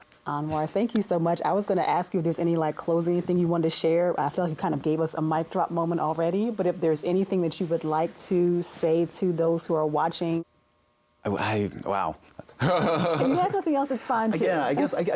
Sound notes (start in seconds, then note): 12.4 laughs